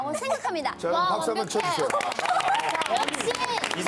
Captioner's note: round of applause